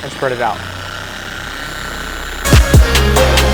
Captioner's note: machine whirring; hip hop music